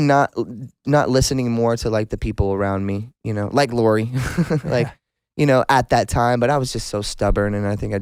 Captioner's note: laughs